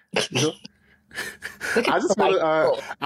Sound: laughs

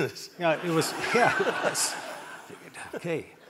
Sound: audience laughing

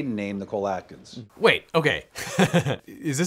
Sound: laughs

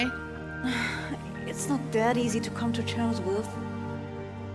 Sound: sigh

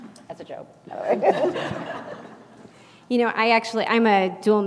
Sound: laugh

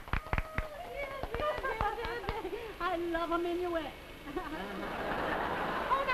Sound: clapping; giggles; audience laughs

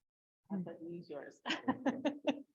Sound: chuckles

